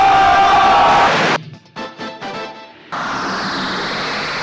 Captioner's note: static